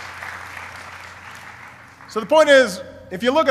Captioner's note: applause